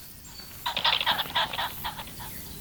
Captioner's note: pheasant calls